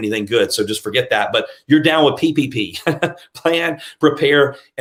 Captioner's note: laughs